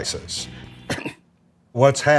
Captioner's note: coughs